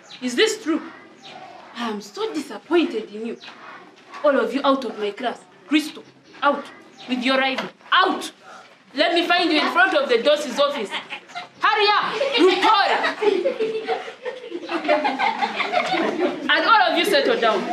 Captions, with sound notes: Is this true? Am so disappointed in you. All of you out of my class, Crystal, out. With your rival, out. Let me find you in-front of the DOS' office. Hurry up! Rutore! [Laughter] And all of you settle down.